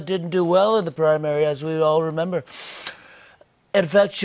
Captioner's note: sniffs